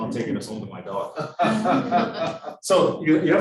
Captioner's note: students laughing